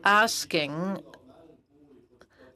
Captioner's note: speaking FRENCH